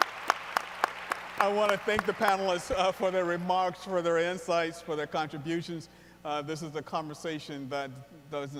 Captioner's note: applause